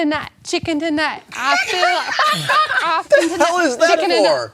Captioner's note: clucks